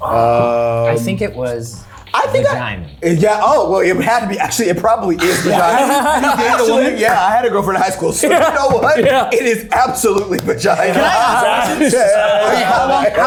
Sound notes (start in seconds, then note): 5.8 people laughing; 10.3 everyone laughing